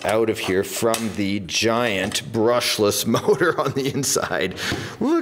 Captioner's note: laughs